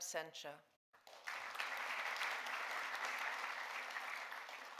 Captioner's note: audience applauding